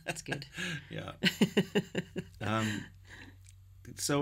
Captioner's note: laughing